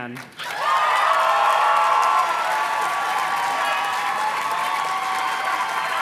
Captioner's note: audience cheers and claps